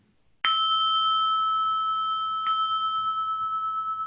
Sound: bell rings

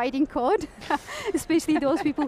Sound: panel laughing

